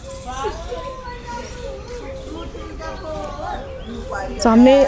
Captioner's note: children reciting multiplication tables